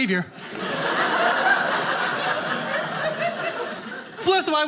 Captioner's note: audience laughing